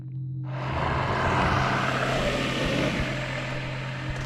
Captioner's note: alien growling